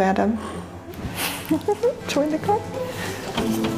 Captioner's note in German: kichert